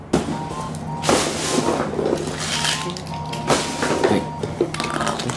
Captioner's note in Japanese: ガシャガシャガシャ